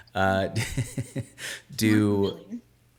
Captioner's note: laughing